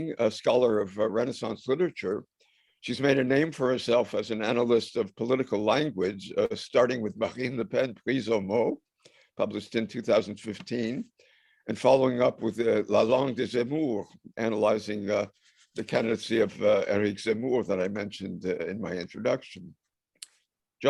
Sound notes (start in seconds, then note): 8.7 french; 12.9 french